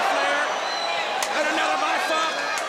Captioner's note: crowd chatter